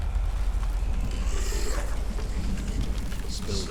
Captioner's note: growl